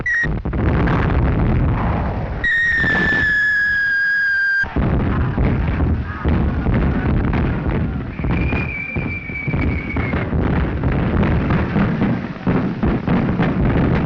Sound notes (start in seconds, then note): 9.4 guns firing